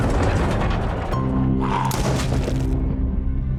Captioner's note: Walker growling; gunshot